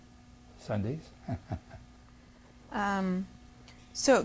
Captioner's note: laughs